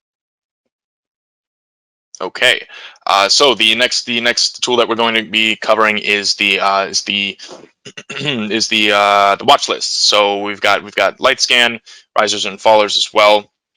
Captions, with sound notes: Okay, so the next tool that we're going to be covering (clears throat) is the watch list. So, we've got light scan, risers and fallers as well.